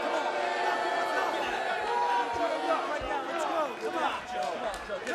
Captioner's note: cheers & boos